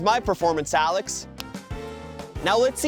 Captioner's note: snaps fingers